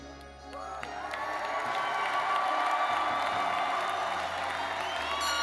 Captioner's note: graduates and audience cheering